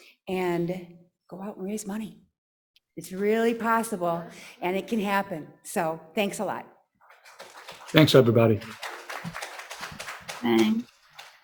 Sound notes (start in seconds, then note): 7.0 audience claps